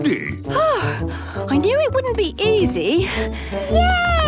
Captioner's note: panting